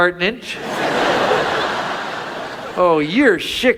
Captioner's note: audience laughs